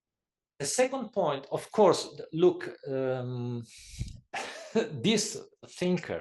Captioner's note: laugh